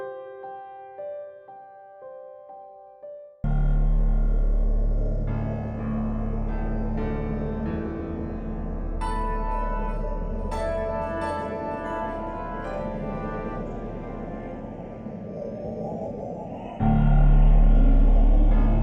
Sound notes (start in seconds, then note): 4.7 brooding music; 5.8 wind howling